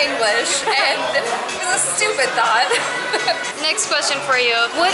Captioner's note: laughter